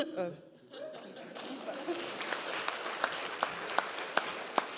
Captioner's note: audience clapping